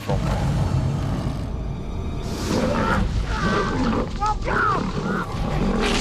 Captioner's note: growling and screaming